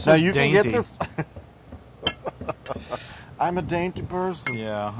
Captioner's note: laugh